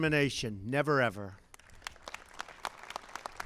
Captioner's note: applause